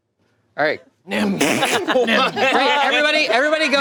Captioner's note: group laughing